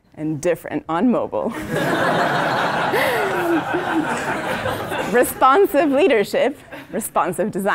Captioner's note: laugh